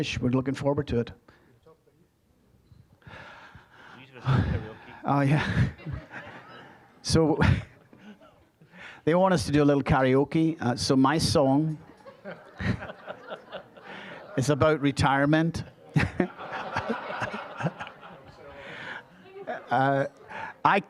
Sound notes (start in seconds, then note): 4.0 laughing; 11.7 audience laughing; 18.3 all laughing